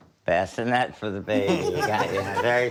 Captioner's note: laughter